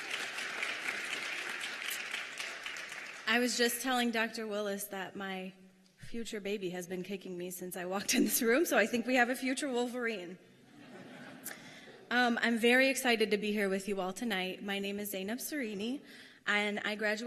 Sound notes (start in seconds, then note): 3.5 applause